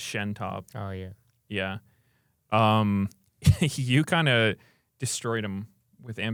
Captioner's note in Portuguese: risos